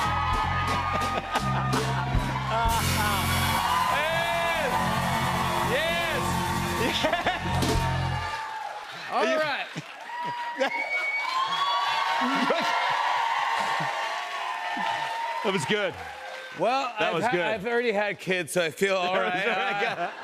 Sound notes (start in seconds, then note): 2.4 buzzer; 10.5 cheers and applause